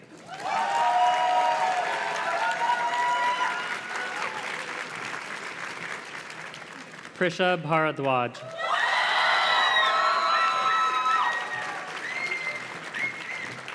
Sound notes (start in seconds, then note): 0.0 audience cheers and claps